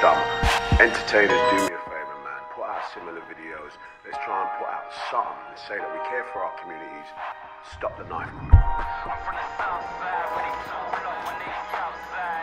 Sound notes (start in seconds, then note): 3.5 radio